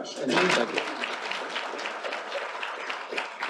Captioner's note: applause